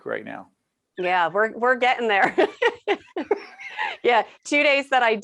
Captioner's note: laughing